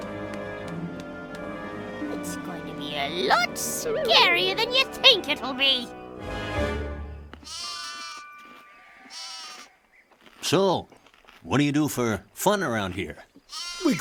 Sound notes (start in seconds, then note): 7.4 baaing